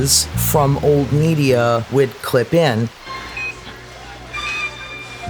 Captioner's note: medical equipment beeping